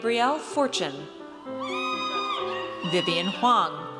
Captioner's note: audience cheers